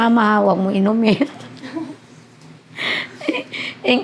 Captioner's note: laughs